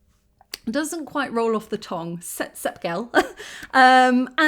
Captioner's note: laughing